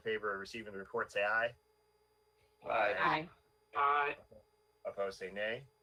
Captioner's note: in Unison